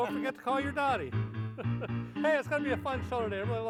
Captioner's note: laughs